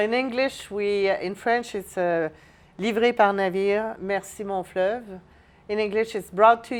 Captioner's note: speaks French